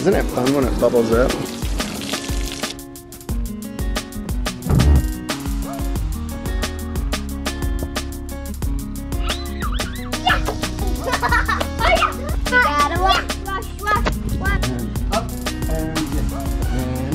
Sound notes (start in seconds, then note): 9.2 laughing